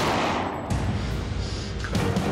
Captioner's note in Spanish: Disparo